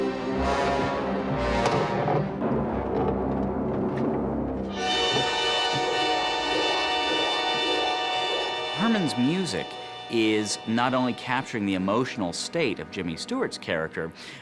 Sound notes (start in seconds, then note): none